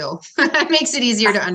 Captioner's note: laughs